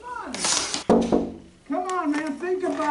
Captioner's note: narrator knocks